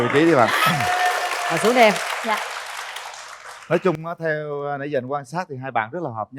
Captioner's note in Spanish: Aplaudir